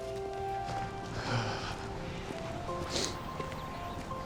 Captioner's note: paper rustling; Nicolas sighs